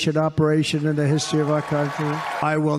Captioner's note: crowd cheers